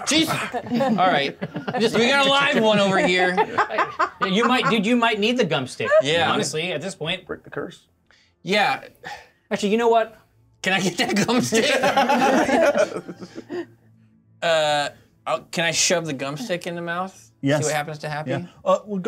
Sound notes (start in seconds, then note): 3.3 co-hosts laughing; 11.0 co-hosts laughing